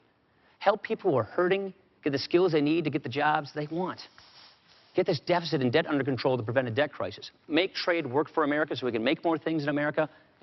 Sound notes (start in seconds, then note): none